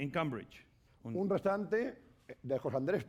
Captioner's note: speaking spanish